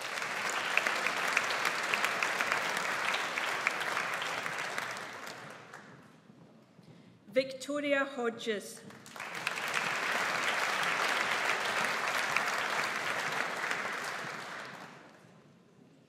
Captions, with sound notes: (AUDIENCE APPLAUDS) Victoria Hodges. (AUDIENCE APPLAUDS)